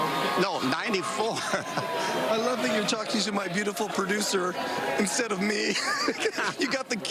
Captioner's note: laughter